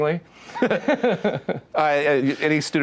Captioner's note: both laugh